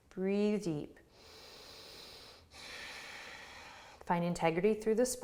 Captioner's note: breathes deeply